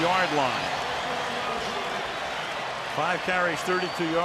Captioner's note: cheering